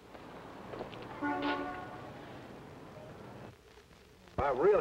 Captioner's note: car horn honking